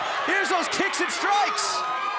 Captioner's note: crowd cheering